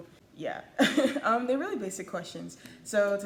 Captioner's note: laughs